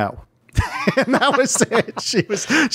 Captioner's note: laughing